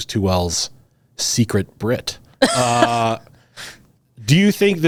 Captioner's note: both laughing